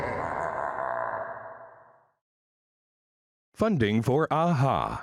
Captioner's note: scary laughing